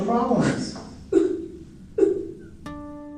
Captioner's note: crying